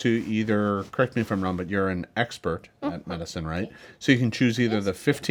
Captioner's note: none